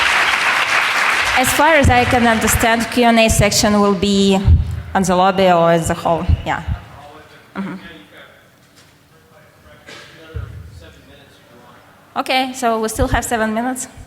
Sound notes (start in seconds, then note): 0.0 applause; 7.9 applause